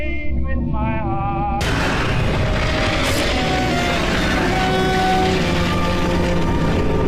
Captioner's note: soft intense music; static hissing loudly